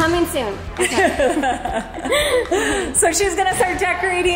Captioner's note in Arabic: كلاهما يضحك